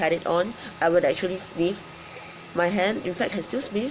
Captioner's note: inhales deeply